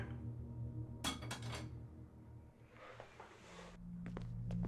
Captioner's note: object clattering; foreboding music